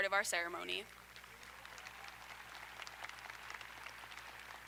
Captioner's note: audience applauding